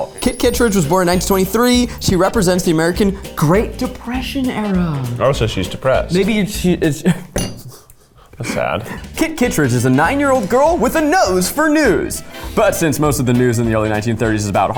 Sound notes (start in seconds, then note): 8.3 laughs